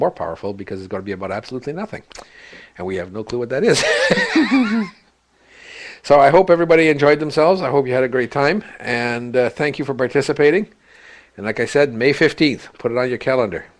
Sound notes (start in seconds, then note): 3.8 laugh